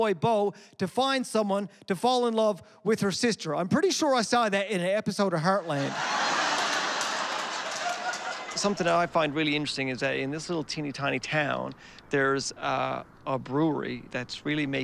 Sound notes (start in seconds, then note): 5.6 laughter